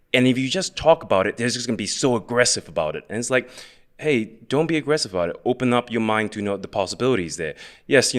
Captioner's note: none